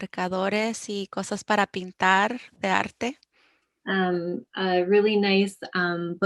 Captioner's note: speaking foreign language